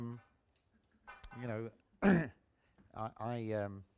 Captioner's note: clears throat